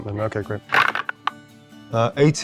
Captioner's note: dice rattling